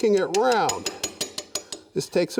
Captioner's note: wood lathe tapping